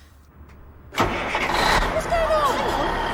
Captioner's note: engine starts